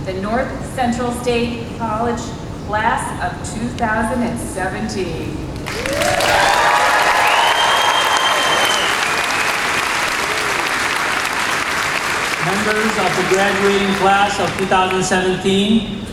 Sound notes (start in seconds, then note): 7.8 applause